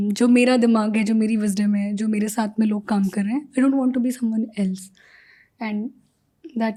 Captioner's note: speaks in Hindi